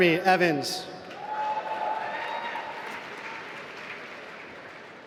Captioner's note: applause